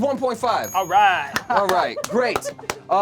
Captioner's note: loud dinging; loud clapping